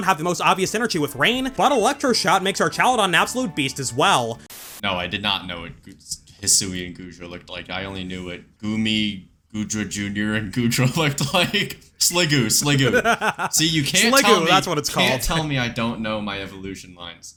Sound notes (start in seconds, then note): 12.8 laughs